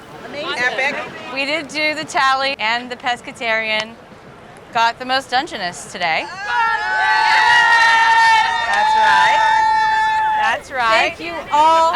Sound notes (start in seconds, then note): 6.2 cheering